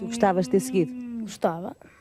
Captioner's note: speaking portugese